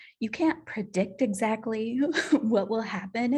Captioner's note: laughter